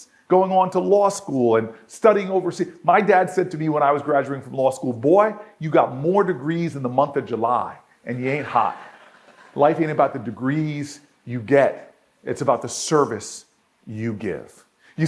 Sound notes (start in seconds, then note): 8.3 audience laughs